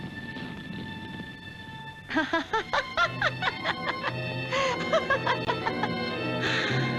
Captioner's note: laughing